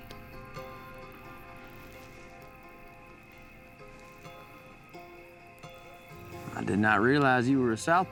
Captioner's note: crickets chirping